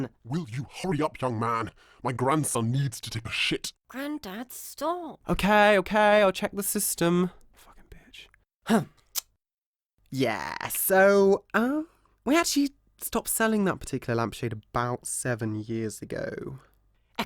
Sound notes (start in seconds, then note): 8.9 huffing